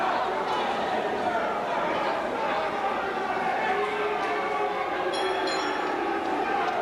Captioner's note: crowd chatter; bell ringing